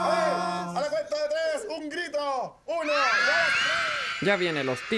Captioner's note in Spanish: Niños gritando